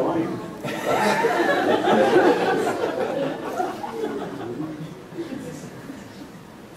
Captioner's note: laughter